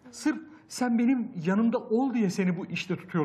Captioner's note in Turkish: none